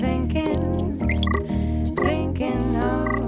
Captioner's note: electronic beeps